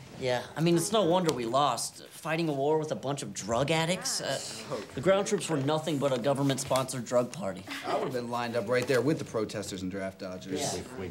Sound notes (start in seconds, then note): 4.5 students grumble